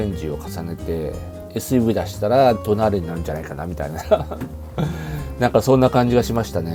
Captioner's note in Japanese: 笑い